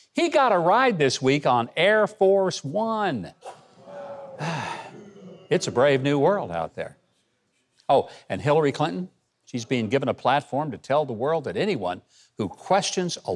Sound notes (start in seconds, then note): 3.5 audience booing